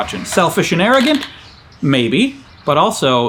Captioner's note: swing creaking